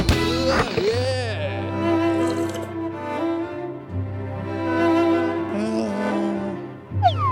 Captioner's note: classical music plays; sips coffee